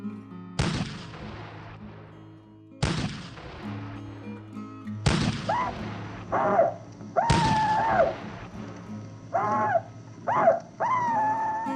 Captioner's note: gunfire